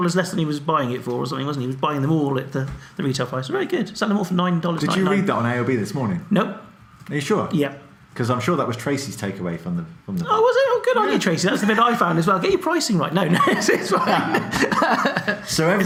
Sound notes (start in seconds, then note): 13.2 laughs; 13.3 both laugh